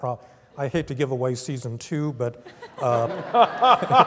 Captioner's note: laugh